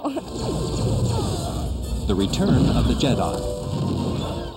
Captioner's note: laser fire